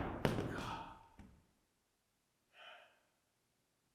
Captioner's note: body thudding; Jacob groans